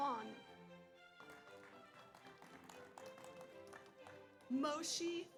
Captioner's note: audience applauds